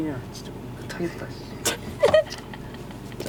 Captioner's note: laughter